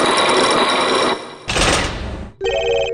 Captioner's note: chains grinding!; locks clacking!